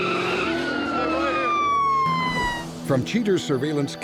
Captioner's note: siren wails